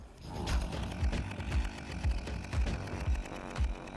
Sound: chain saw buzzing

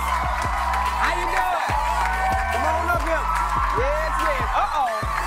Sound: cheers and applause

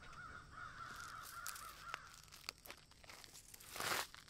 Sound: leaves crunching

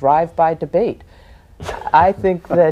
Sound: laughter

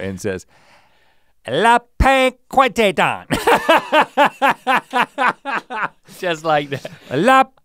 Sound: laughs loudly

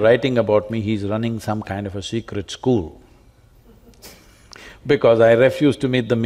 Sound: laughs

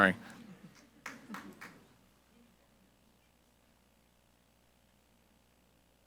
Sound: audience member applauds

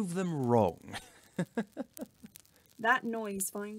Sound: Sirius Laughs

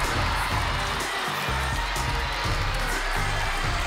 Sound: audience cheers and applauds

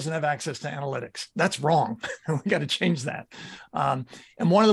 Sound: chuckles

